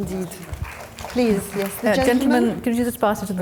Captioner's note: audience applauding